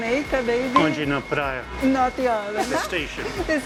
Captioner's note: in Portuguese; laughs